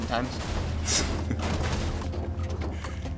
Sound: chuckles

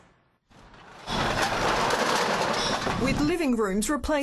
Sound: cans clattering

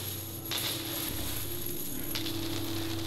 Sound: rain Pour Continues

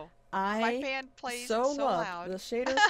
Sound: laughs

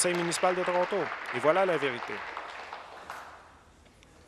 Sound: applause

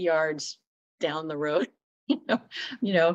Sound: laughter

